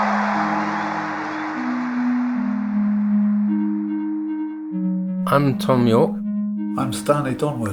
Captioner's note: applause